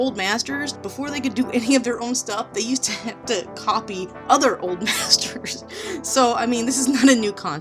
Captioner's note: laughs